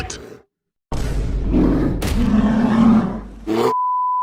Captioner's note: King Kong pounds the ground